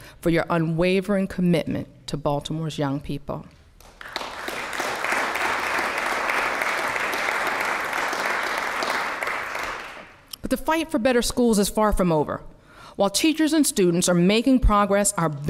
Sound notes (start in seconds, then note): 6.8 applause